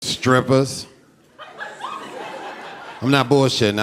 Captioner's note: audience laughing